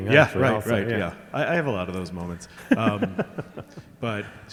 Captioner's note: chuckling